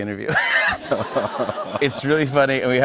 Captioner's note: laughter